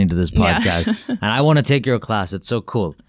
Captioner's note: laughs